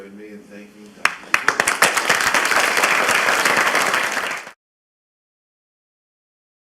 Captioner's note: applause